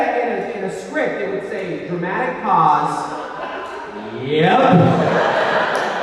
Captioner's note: laughs